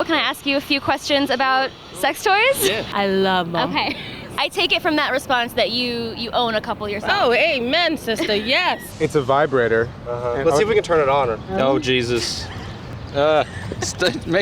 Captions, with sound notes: - Can I ask you a few questions about sex toys? - Yeah. - I love them. - Okay (laughs). I take it from that response that you own a couple yourself? - Oh, amen sister, yes! - It's a vibrator. - Uh-huh, let's see if we can turn it on. - No Jesus. (Interviewer laughing)